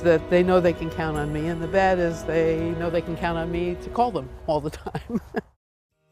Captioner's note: laughs